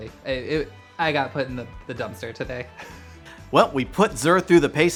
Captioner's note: laughing